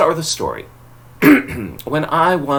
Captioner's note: clears throat